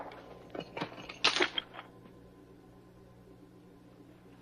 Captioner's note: key clinking